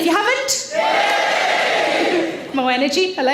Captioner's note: audience Cheering